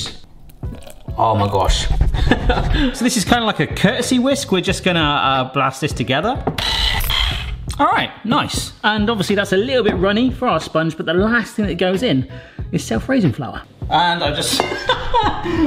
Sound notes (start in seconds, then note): 2.0 laughing; 6.6 whisk whirring; 14.7 laughing